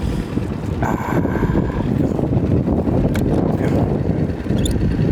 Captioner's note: loud wind gusts